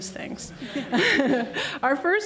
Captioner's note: laughs